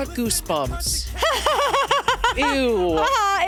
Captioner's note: laughs